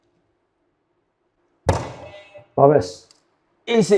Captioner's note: buzzer sounds